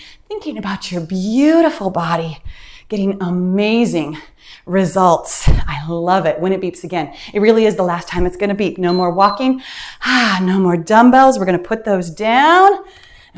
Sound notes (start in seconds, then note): 8.8 timer beeps; 9.8 sighs